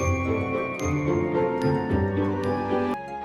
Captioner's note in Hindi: घंटी की आवाज़